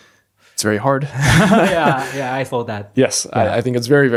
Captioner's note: laughs